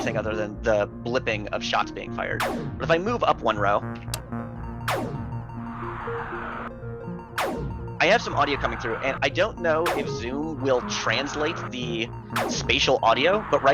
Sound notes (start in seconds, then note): 4.7 enemy ship shooting; 5.1 in-game beeping